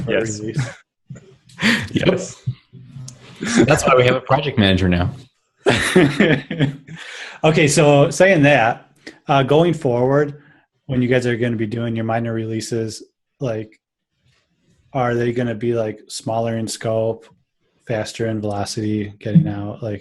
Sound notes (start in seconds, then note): 0.0 laughter; 5.6 laughter